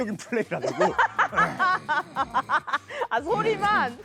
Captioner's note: growl